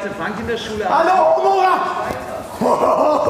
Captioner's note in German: er schreit